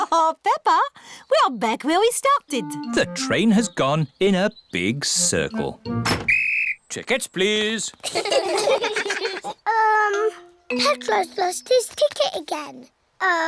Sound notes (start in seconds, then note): 6.1 blows whistle; 8.0 all laugh